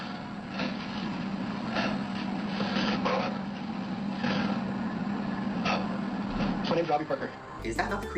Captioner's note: deep breaths